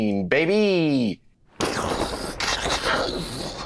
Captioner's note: thunder booming